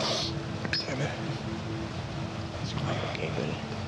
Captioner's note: sniffs